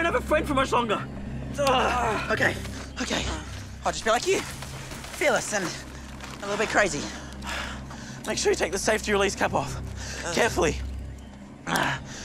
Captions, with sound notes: Do it, or you won't have a friend much longer! -[Sam groans] -Okay. Okay. I'll just be like you. Fearless and a little bit crazy. Make sure you take the safety release cap off. Carefully.